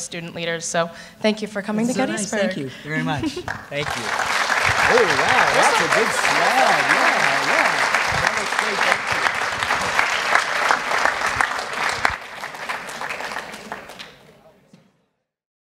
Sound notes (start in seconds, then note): 5.4 applause continues